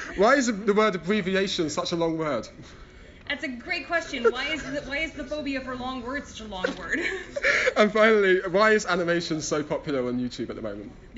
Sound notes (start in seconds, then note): 6.6 both laugh